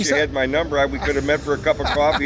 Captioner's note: laughs